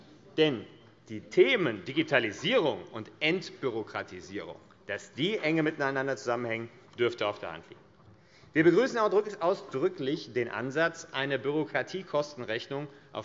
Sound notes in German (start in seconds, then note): none